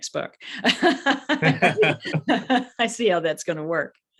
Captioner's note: laughter